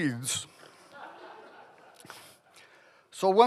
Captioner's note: laughing